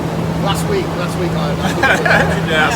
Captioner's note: laughs